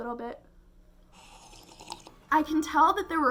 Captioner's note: slorp